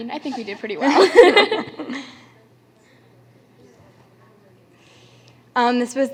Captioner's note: laughter